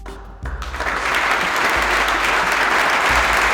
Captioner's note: applause